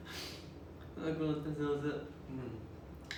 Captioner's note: speaking Japanese